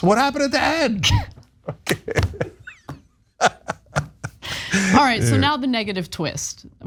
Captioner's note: laugh